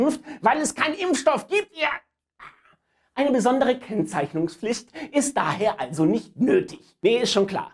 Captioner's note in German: gmpfff